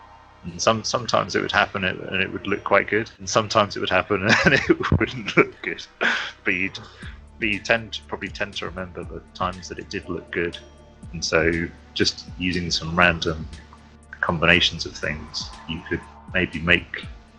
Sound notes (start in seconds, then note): 5.9 laughing